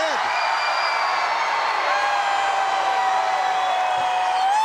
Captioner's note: crowd cheering